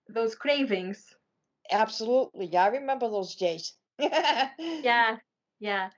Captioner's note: laughing